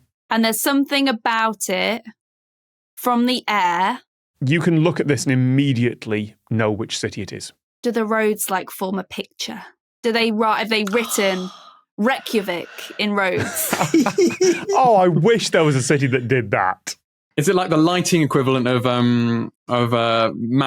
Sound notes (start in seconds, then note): 13.3 giggles childishly; 13.3 chuckles